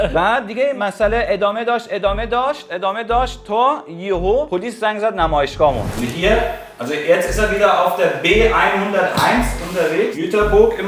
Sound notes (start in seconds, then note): 5.8 speaking German